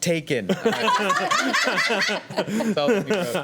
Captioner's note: laughing